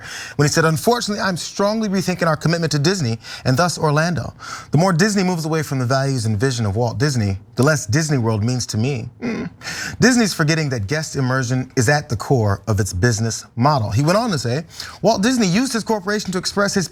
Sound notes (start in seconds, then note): 9.2 cough